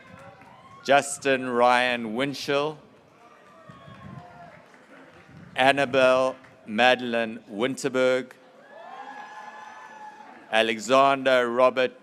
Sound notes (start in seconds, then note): 3.2 graduates cheering; 8.6 graduates cheering